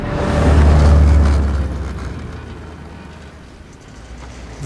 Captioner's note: motor roaring